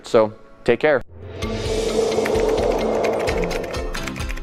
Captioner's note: whooshing